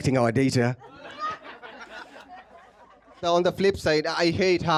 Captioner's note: laughter